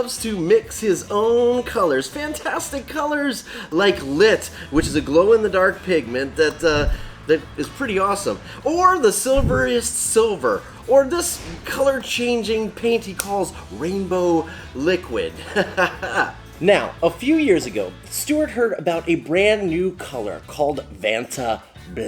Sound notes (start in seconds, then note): 15.3 chuckles